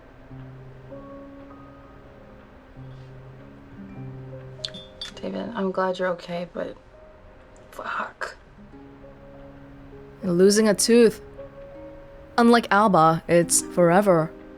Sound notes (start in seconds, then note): none